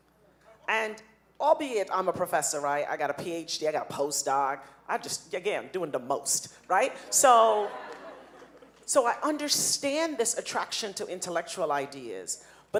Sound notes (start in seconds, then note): 6.8 audience laughing